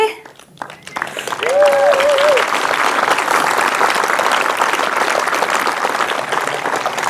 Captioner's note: audience applauds; audience cheers